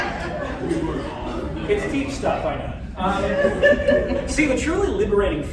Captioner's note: laughter; laughter